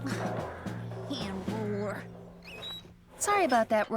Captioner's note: grumbling